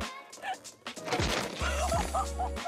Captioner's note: fence clatters; woman laughs